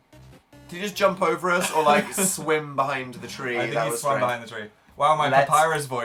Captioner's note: laughs